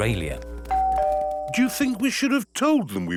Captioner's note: doorbell rings